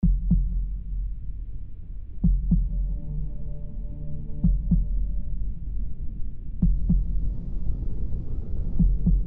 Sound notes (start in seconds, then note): 0.0 heartbeat thumping; 2.7 ambient music